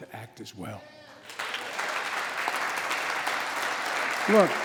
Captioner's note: applause